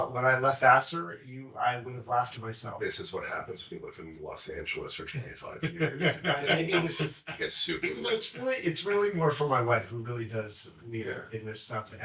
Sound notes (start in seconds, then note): 5.5 laughs